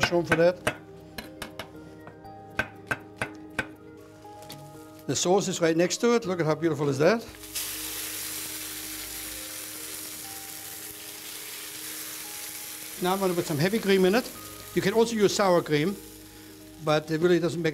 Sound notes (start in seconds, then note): 7.3 sizzling